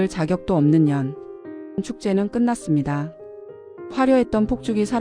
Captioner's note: narration - Calm but chilly female voice actor tone